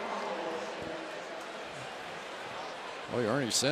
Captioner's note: pa announcement